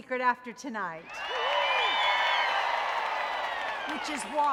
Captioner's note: audience cheering